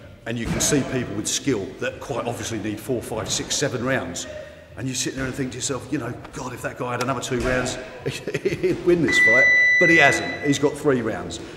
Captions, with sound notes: And you can see people with skill, that quite obviously need four, five, six, seven rounds, and you sit there and you think to yourself, you know, "God, if that guy had another two rounds, "he'd win this fight!" (chiming) But he hasn't, he's got three rounds,